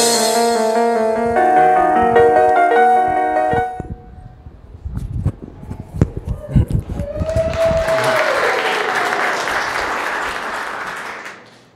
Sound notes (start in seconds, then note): 7.1 applauding